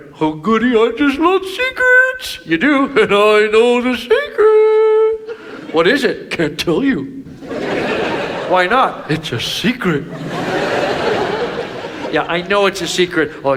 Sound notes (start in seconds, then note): 7.2 audience laughs